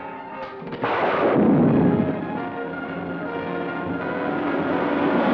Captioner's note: projectile blasting; dramatic music